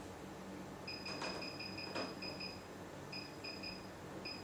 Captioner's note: table beeping